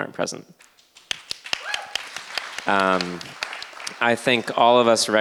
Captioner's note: audience clapping